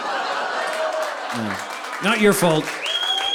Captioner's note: audience applauding